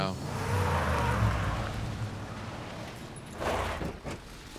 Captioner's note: truck rumbling